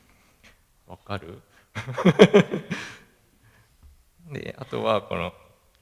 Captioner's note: laugh